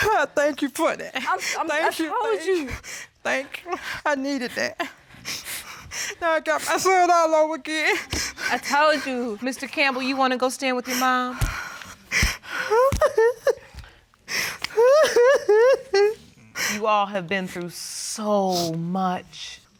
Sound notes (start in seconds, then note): 12.5 sobbing